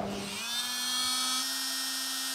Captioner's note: whirring